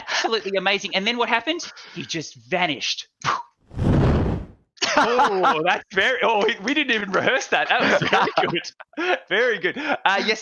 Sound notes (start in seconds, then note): 0.0 laughs; 3.7 explosion